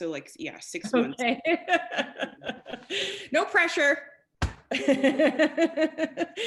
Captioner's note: laughing; laughing